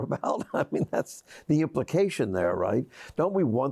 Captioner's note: laughs